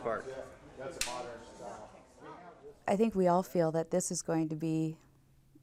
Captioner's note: snap!!